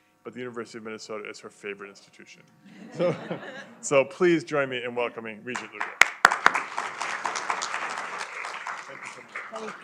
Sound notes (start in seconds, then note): 2.6 laughter; 5.5 applause